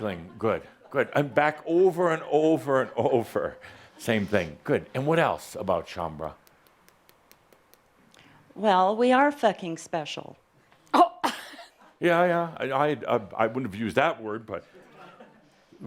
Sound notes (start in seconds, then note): 10.6 gasps